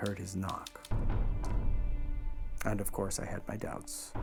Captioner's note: banging